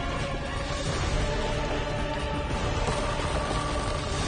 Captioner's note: crashing